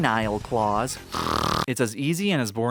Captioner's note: snorting